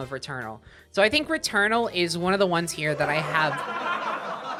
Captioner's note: sitcom laughter; sitcom laughter continues